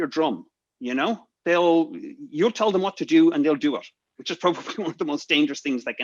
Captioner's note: laughs